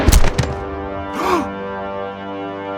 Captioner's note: gunshot; gasp